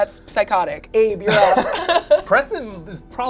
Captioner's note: laughs